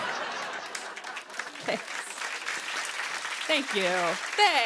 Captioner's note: laughter; applause